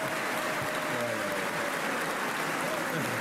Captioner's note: applause